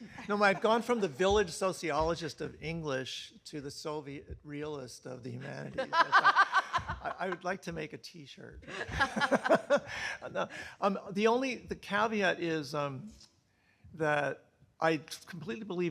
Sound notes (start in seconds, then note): 5.4 laughing; 10.1 laughs